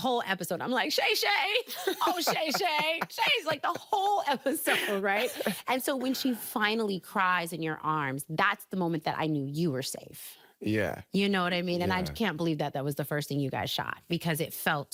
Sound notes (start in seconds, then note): 1.6 laughing